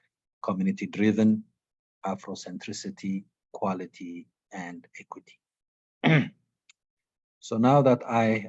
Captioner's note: clearing throat